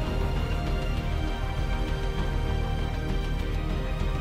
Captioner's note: wind blowing